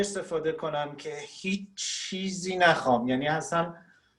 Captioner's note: speaking Farsi